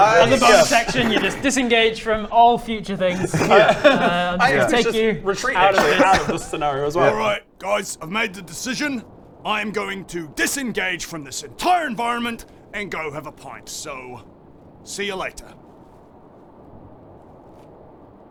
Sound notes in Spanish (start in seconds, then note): 15.7 sonidos sombríos de la naturaleza; 17.1 sutil crujido de cuero